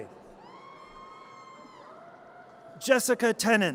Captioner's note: audience cheers